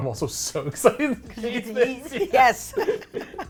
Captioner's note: both laugh